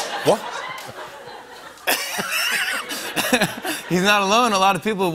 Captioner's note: laughter